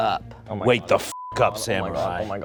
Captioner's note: beep